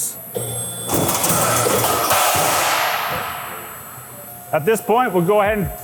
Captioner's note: metal clanking